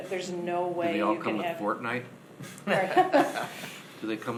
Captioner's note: laughing